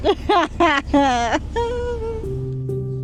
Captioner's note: laughter